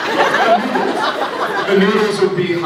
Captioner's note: laughs